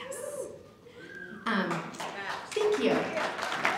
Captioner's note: applause